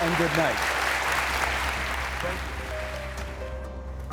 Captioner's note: audience applauding